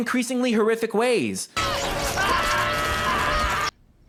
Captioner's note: Subaru Screaming